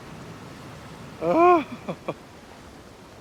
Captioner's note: off camera sigh